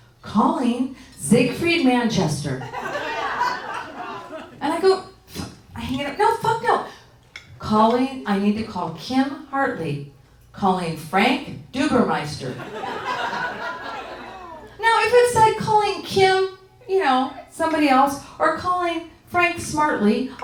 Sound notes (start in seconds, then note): 2.6 audience laughing; 12.8 audience tittering